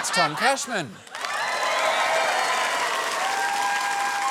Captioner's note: cheering and applause